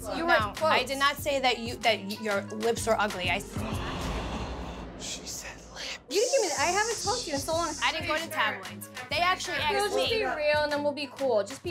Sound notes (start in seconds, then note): 3.6 gasping